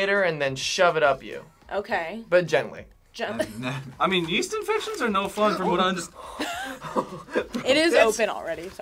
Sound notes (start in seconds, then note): 3.4 laughs; 5.3 laughs